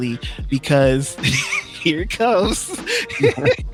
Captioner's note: laughing; laughs